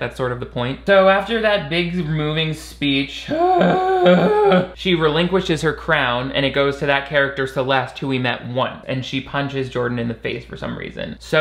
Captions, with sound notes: That's sort of the point. So after that big moving speech (grunting) she relinquishes her crown and it goes to that character, Celeste, who we met one and she punches Jordan in the face for some reason.